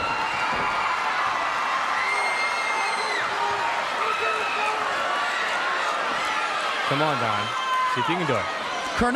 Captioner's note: crowd cheering